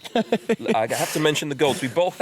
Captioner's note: laughter